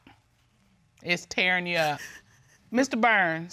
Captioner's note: sniffles